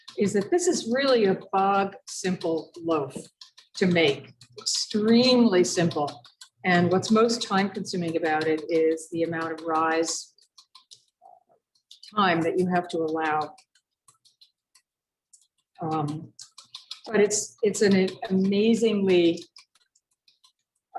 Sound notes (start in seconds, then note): none